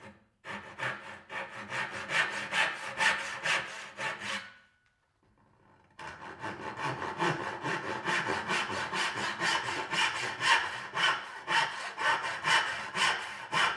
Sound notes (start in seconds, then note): 0.4 saw rasping